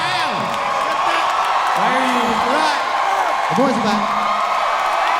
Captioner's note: audience cheering loudly